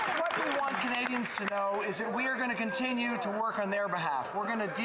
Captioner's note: some Applause